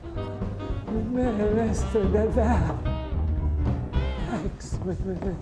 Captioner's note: stammering